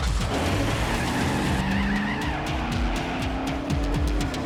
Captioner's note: tires screeching